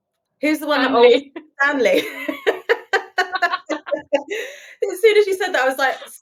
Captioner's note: both laughing